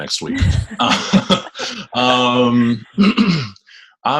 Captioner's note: laughs